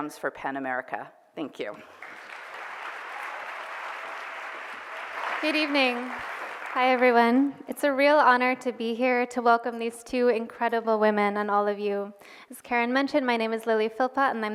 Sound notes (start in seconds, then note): 1.8 cheers and applause